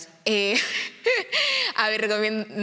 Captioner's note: laughs